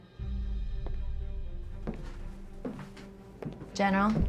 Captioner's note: footsteps thudding